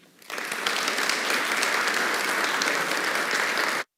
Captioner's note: audience claps